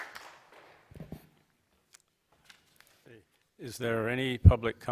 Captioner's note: applause